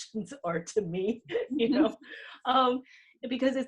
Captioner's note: laughs